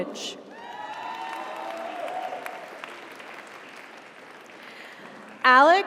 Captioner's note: audience cheers; audience applauds